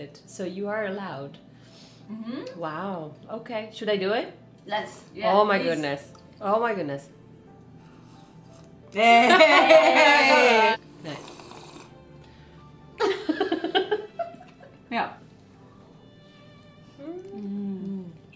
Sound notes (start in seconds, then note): 8.0 slurp; 11.0 slurp; 13.0 laughter